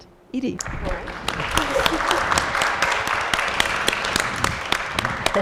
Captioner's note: applause